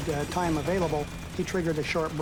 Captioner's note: gunfire